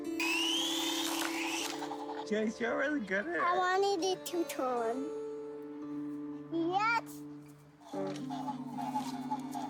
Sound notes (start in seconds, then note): 0.2 whizzing sound; 7.5 noise from toy